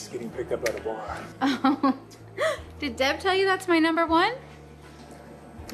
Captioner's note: laughs